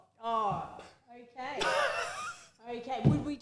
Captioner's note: laughs